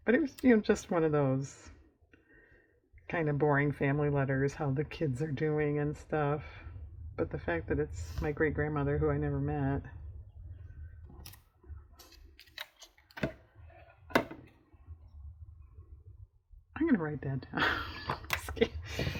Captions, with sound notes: it was you know just one of those kind of boring family letters, how the kids are doing and stuff but the fact that it's my great-grandmother who i never met i'm going to write that down (laughs)